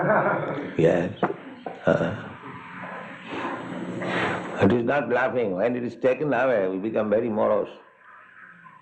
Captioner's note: laughter